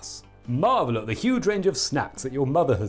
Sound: none

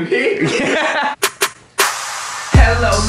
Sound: laughing

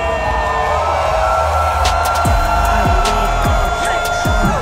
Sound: people clamoring

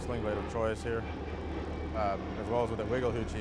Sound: none

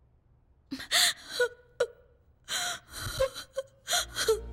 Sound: crying

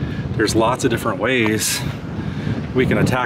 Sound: none

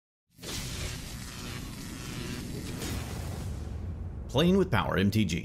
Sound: electricity buzzing

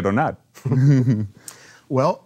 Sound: laughs

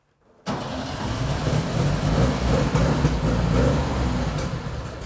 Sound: engine roars

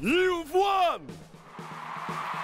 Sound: cheers and applause

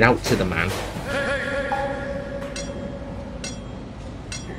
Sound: shout Echoing

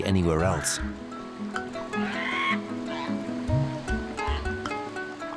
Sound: seals cry

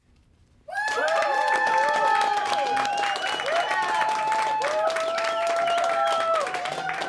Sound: crowd cheers

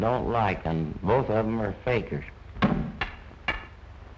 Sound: tapping

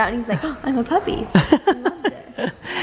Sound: gasp

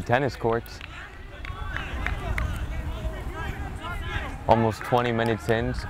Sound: players talking and yelling

